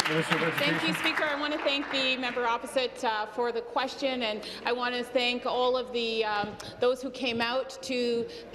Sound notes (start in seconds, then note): 3.1 applause